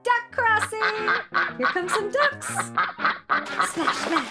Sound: ducks quacking

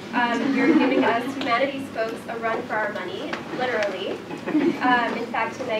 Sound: laugh

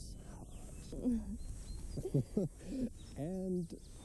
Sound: Kate giggles

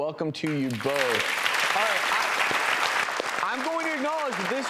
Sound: audience claps

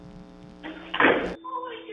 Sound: tv static noise; crash

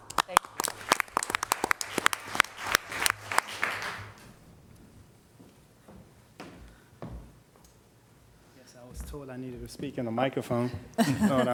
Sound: applause

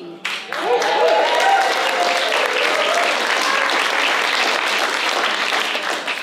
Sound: applause

